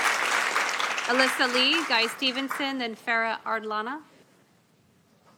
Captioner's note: applause